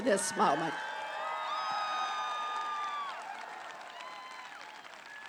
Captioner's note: applause